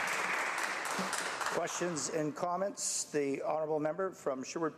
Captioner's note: speaking French